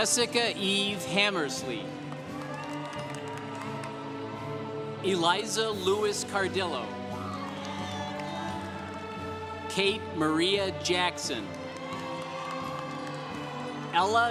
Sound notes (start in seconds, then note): 1.9 congregation cheering; 11.0 congregation cheering